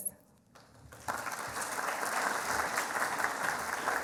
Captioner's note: applauding